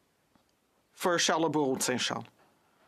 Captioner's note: speaking French